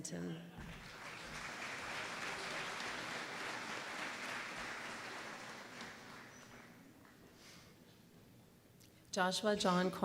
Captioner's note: applause